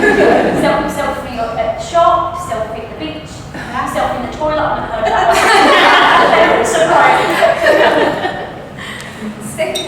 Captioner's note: all laugh; all laugh